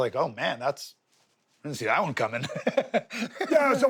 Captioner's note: laughs